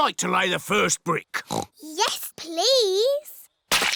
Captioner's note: oinks